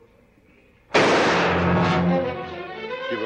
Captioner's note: gunshot